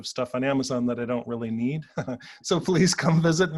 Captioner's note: chuckles